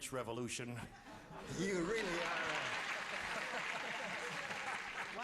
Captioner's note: laughs